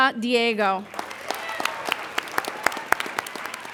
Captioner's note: applauding